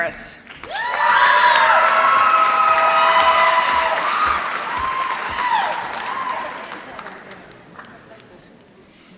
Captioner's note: applause